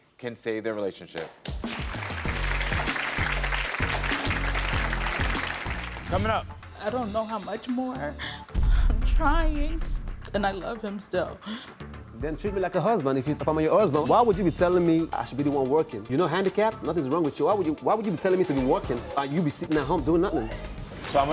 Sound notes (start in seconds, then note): 1.1 audience claps; 8.4 gasps through tears